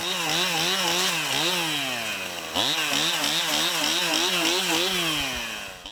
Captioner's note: chainsaw noise